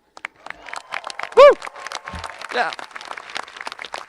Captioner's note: audience applauding and cheering